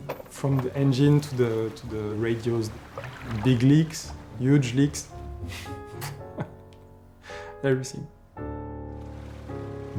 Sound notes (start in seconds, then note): 5.9 laughs